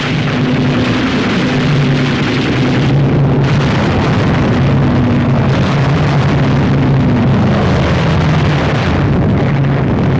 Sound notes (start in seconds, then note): 3.8 explosions